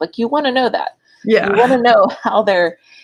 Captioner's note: laughs